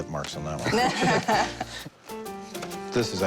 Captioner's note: laughter